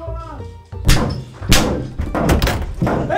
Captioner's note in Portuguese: constant beating